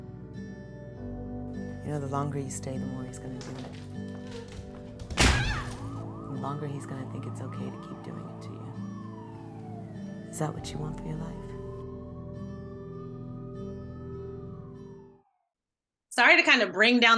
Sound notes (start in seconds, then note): 3.4 bang on the door